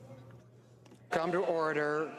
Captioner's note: speaking French